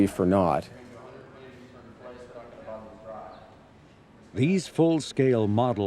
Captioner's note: faintly speaking